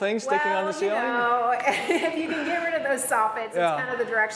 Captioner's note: laughs